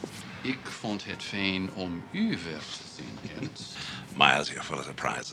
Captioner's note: speaking Dutch